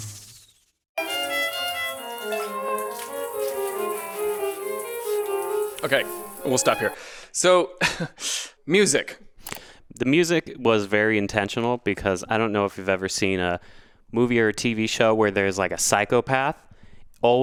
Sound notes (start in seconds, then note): 1.0 gentle orchestral music; 1.0 water pattering; 8.4 chuckles